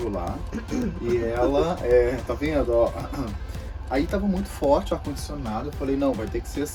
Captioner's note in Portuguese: raspa a garganta